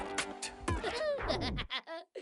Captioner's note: laughs